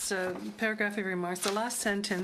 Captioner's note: speaking French